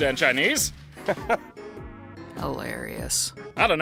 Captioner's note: chuckles